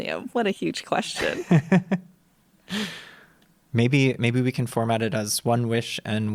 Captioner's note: laughs